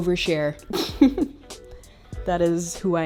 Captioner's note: chuckles